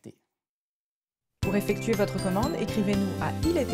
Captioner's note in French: une voix de femme